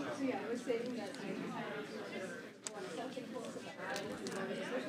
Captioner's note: chatter